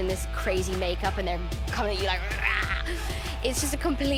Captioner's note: growls